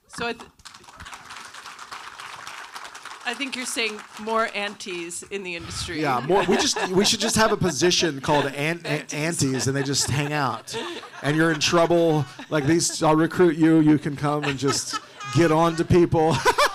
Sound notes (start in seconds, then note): 0.5 audience applauding; 6.4 all laughing